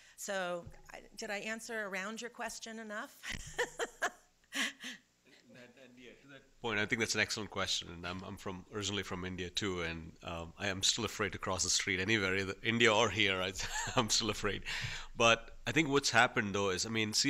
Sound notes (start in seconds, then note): 3.3 laughs